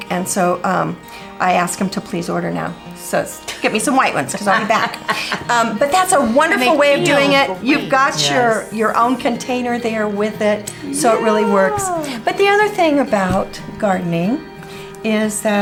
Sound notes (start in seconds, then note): 5.1 laughs